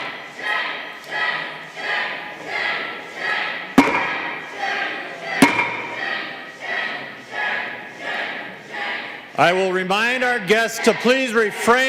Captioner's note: chanting